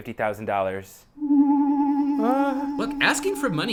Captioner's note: vanishing Noise